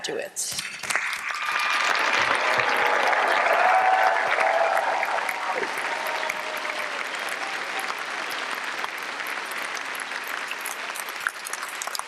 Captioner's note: applause and cheering